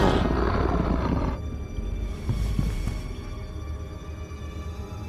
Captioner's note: growling